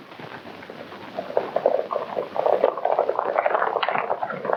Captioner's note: hooves clomping